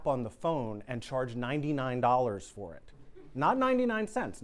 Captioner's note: students laugh